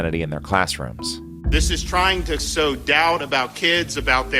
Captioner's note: soundbite of archived recording